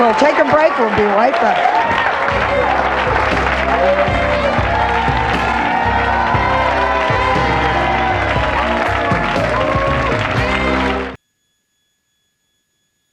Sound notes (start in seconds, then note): 0.0 audience applauds; 1.6 audience applauds; 3.8 upbeat music